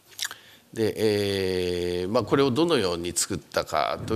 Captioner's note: speaking japanese